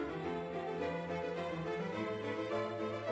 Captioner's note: none